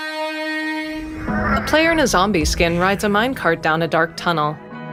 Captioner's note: Ghastling coos; chill music plays